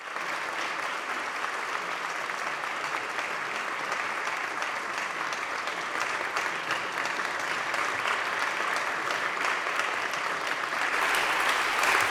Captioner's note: applause